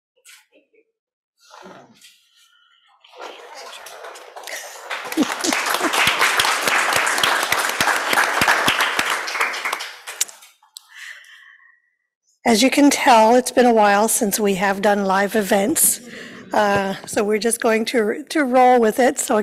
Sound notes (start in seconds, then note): 3.2 applause